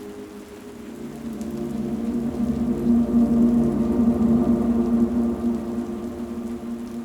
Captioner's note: mysterious music continues; rain continues pattering